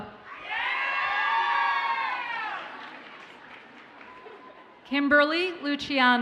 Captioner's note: audience cheers and applauds